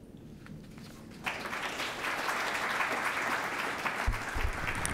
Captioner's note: audience clapping